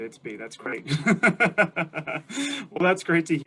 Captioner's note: laughs